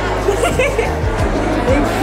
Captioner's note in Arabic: يضحك